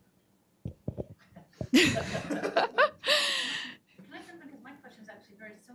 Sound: everyone laughing

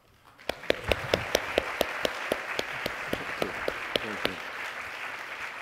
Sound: audience applauding

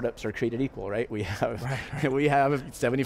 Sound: laughing

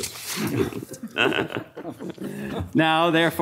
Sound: audience laughing

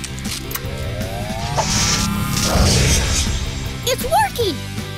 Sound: engine whining; sparks crackling; engine whirring

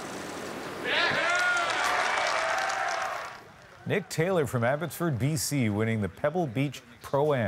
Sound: applause

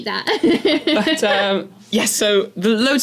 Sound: laugh

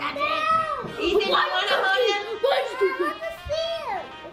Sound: chattering together

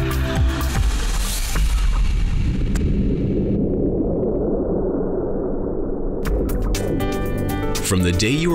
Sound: thunderous earthquake sound

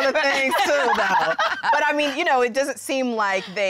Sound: laughter

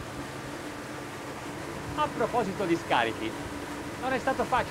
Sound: engine hum

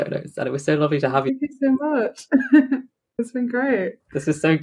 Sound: laughs

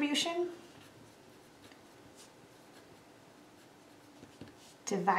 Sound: pen scribbles

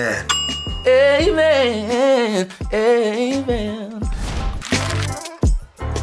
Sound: bell sound

